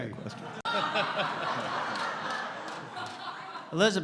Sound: laughter

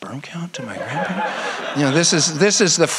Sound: audience laughs

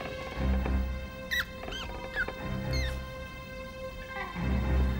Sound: mouse squeaking

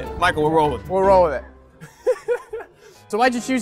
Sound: laughs

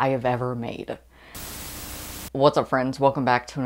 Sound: Static

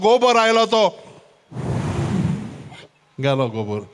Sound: sound of wind blowing

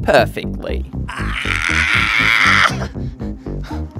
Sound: screams

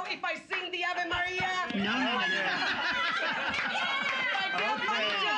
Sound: loudly laughing; cheers and applause

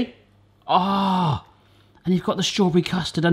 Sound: groans

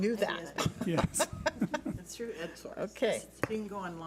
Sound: laughs

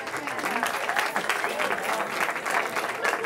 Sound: cheering

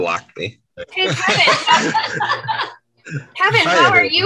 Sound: all laugh

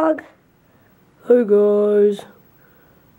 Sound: in Ollie's voice

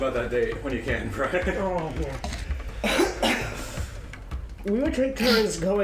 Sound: groans

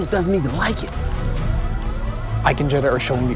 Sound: alarms blaring

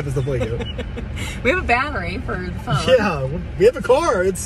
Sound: laughs

